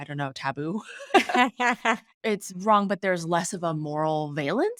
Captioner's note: laughing